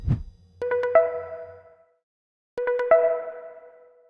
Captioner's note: phone rings